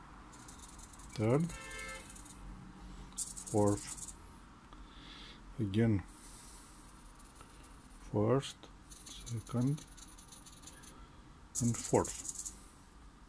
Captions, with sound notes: third... fourth... again.. first... second and fourth (servos)..